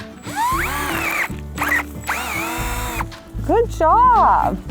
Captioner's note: drill noise